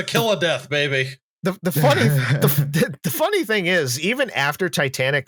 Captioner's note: chuckles